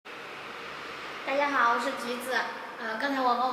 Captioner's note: Mandarin